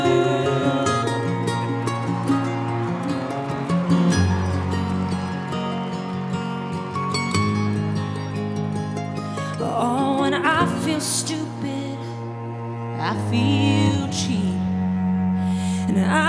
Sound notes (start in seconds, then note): 0.2 acoustic guitar solo; 2.7 people cheering